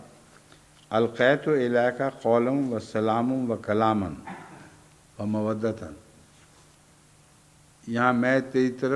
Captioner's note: Arabic